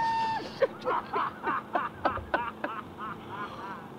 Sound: laughing

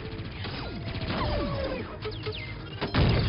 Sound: laser fire; loud explosion

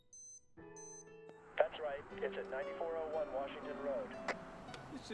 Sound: CB radio

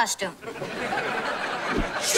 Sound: laughing

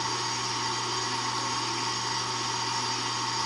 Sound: vacuum

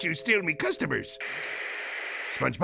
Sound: static

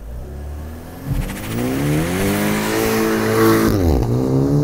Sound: engine revving

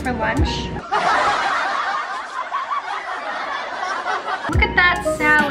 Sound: audience laughing

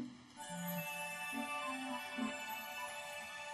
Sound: tinkling

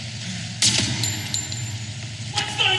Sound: gunshot

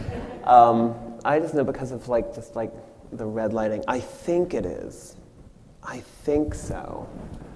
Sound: audience laughs

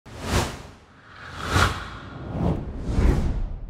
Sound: swooshing sounds

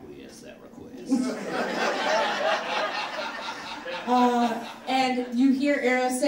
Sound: audience laughs

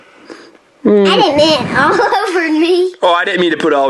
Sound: laughs

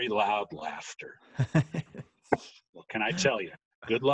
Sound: chuckling

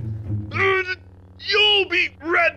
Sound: sith mutters

